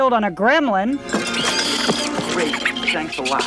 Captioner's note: water splashing; gremlin screeches